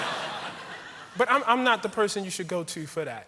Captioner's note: laughter